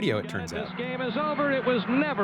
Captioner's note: soundbite of archived recording